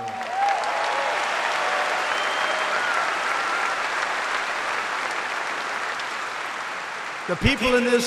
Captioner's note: applause